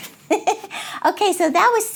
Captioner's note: laughs